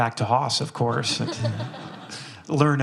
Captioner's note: laughter